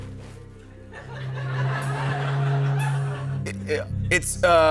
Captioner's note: laughter